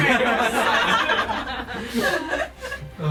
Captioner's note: laughter